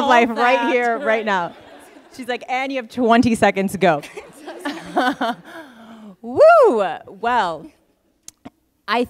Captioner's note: laughter; laughter